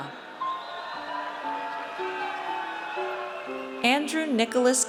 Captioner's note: audience cheers